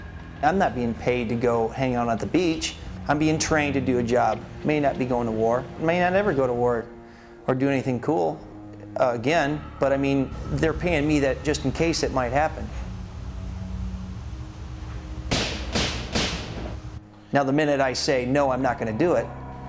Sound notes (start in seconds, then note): 15.3 gun firing